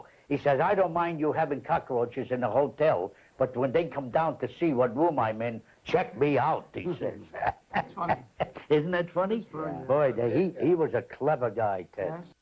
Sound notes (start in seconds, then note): 7.3 laughs